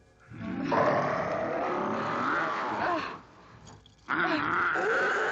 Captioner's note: werewolf snarling